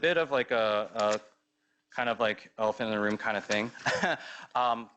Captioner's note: laughs